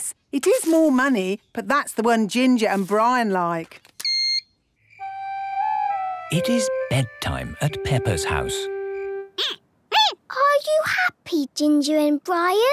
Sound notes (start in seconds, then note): 3.5 beep!; 9.0 squeaking